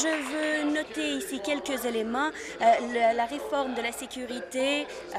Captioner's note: applause